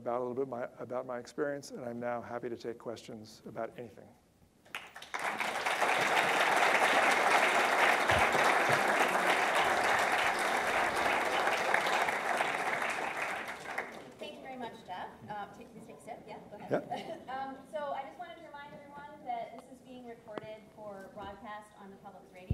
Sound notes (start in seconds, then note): 4.6 audience claps; 15.7 laughs